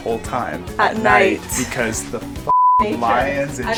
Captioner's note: beep